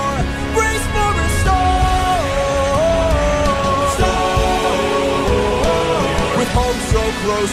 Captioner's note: storm